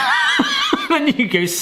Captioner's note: laughing